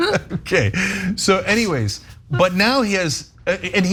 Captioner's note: laugh